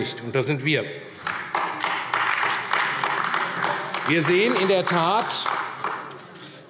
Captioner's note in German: Beifall AfD